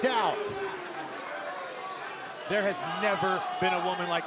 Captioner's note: crowd chatter